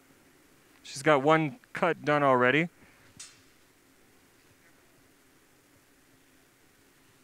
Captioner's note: silence